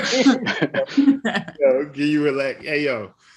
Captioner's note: laughs